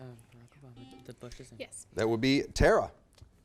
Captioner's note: buzzer beeps